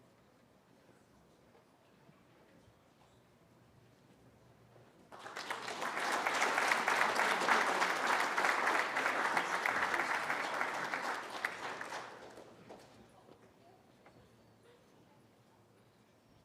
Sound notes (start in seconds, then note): 5.1 applause